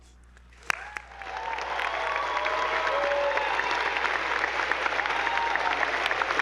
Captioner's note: attendees applauding; audience cheering